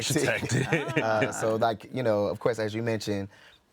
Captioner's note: laughing